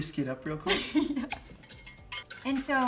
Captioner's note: chuckles